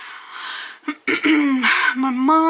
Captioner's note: clears throat